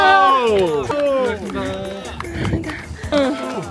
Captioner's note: applause